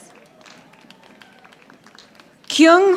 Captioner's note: audience applauding